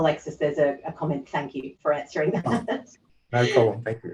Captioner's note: chuckles